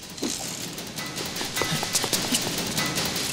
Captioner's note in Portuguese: Ambos ofegante